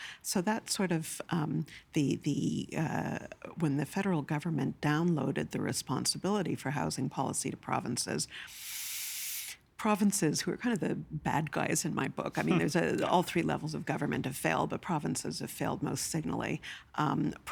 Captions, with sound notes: So, that's sort of the-- the-- When the federal government downloaded the responsibility for housing policy to provinces-- (Inhaling) --provinces, who are kind of the bad guys in my book, I mean, there's-- all three levels of government have failed, but provinces of failed most singly,